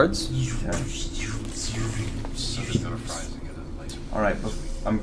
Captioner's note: lightsaber noises